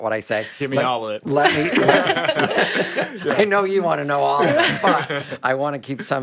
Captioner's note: laughs